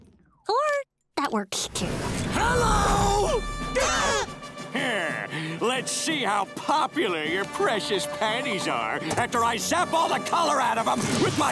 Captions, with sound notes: Or, that works too. Hello! [gasping] Let's see how popular your precious patties are after I zap all the color out of 'em